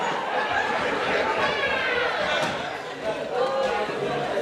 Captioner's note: laughter